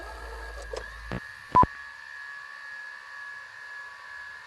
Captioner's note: camera whirring; tone beeps